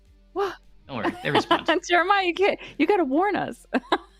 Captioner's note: laughter